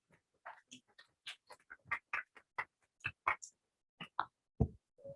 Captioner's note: applause